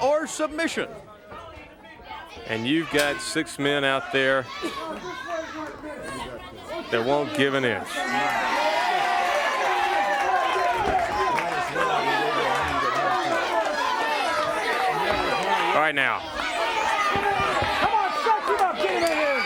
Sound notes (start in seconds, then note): 6.9 crowd cheering; 13.9 crowd chatter; 15.0 crowd cheering